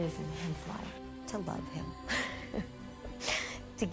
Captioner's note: laughs